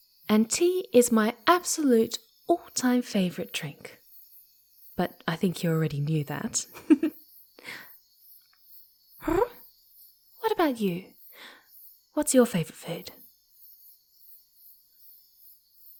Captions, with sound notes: And tea is my absolute, all-time favorite drink! (playfully) But, I think you already knew that. (Murmurs a quiet laugh) Hrrr? What about you? What's your favorite food?